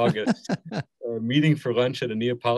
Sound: laughing

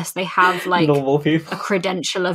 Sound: laughs

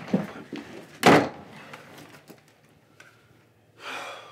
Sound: door slamming

